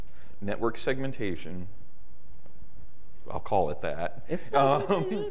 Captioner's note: laughs